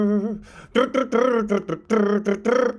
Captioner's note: humming